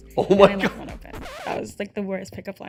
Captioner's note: record scratching